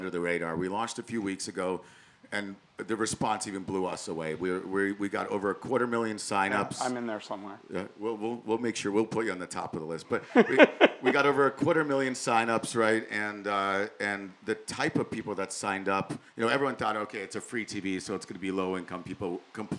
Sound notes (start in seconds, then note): 10.2 laugh